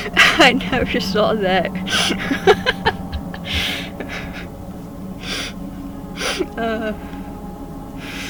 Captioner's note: laugh; laughing